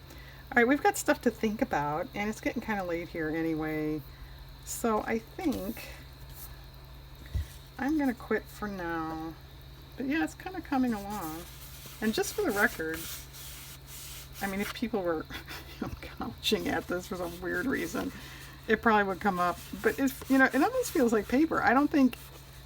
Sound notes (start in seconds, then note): 15.3 laughs